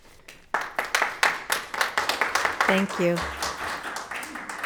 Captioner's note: audience applauding